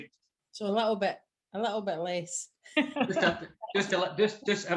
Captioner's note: laughs